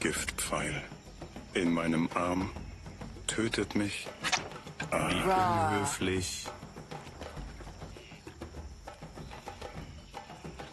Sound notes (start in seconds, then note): 4.2 arrow swish